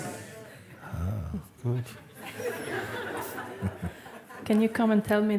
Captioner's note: laughter